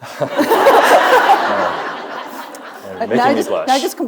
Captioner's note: audience laughing